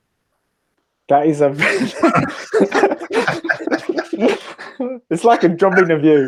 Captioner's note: laughter